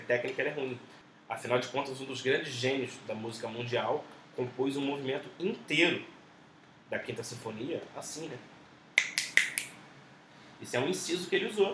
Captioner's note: snaps fingers